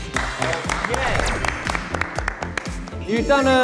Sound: applause

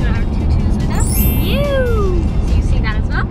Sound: chimes

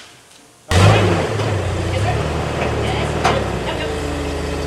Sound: engine whirring

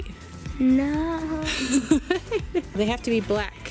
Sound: laughing

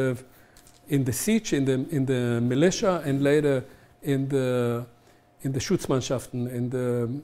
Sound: german

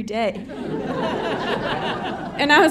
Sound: audience laughing

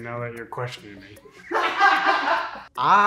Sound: group laughs

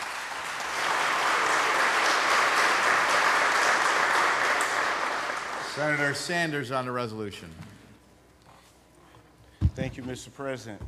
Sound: applause

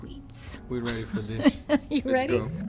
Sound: laughs

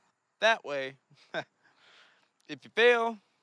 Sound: laughs

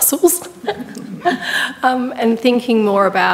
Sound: panellists laughing

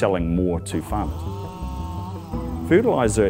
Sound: plane engine accelerating

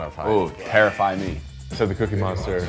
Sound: buzzer blaring

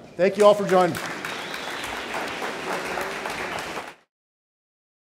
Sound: audience cheering

